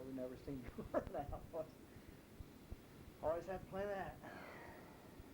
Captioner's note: chuckles